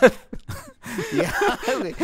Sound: laughing

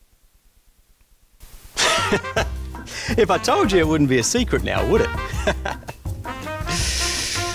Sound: laughs

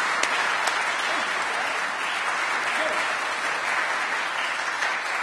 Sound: applause

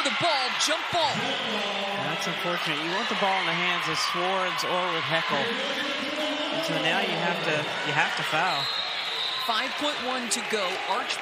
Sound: crowd noise

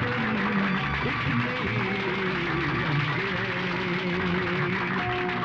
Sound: applauding

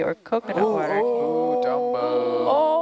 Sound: group oohs

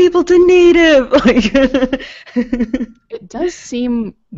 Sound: chuckles

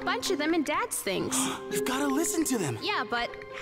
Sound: gasping

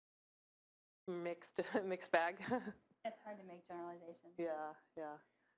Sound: laugh

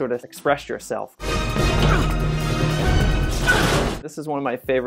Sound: grunting; dramatic music

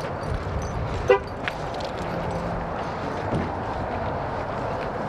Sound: horn honks as car locks

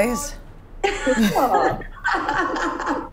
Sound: laughs

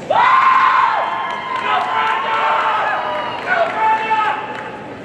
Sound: cheering

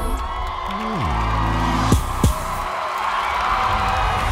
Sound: audience cheering

